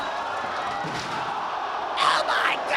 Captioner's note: spectators exclaiming